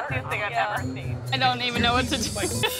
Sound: guest giggling

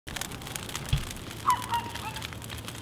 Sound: sounds of fire crackling

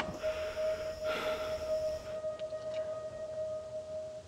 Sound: compartment clattering; man panting

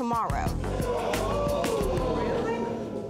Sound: audience disapproving

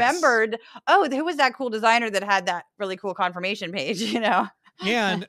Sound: laugh

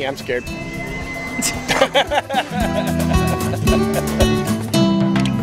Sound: laughter

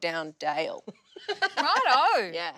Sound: laughs

